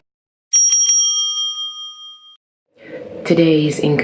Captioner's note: bell rings